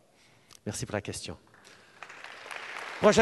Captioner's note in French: Applaudissements